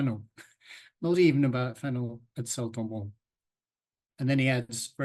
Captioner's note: chuckles